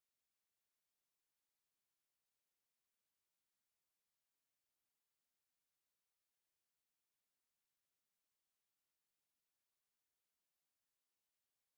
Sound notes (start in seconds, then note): none